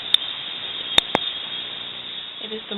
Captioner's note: bird singing